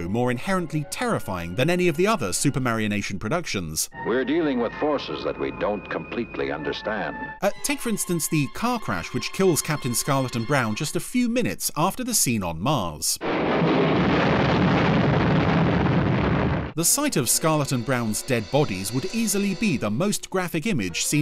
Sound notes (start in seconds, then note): 13.2 car exploding; 13.2 loud rumbling